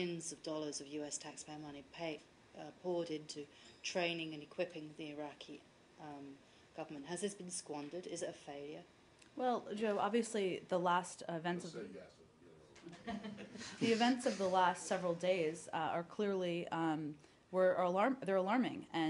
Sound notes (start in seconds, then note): 12.9 laughter